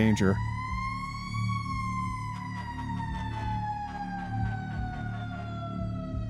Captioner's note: sirens